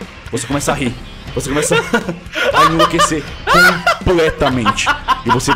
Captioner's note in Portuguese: rindo muito